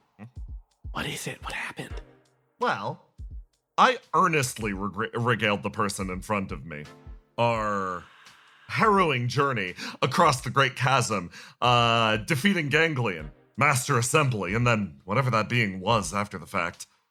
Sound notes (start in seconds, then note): 0.9 whispering